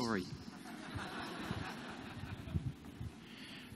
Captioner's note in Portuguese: Risos